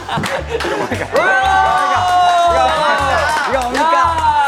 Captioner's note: Loud applause for teddy bear Taki~!